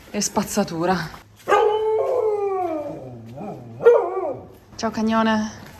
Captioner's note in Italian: Ululato del cane